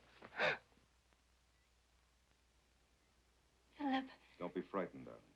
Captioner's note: Sheila gasps